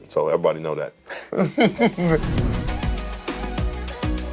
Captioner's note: laughing; upbeat music